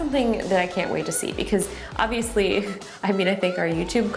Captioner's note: chuckles